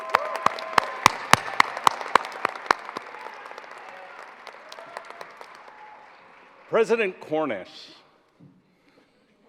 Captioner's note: applause